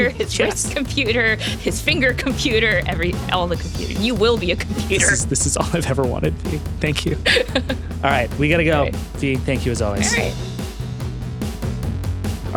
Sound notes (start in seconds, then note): 7.2 laughing; 11.2 upbeat music